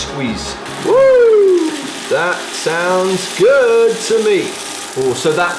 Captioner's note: oil sizzles